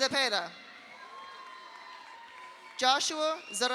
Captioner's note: audience cheers; audience applauds